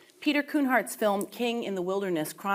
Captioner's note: none